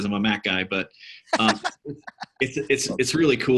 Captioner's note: laughing